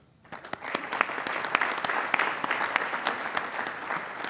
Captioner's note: applauding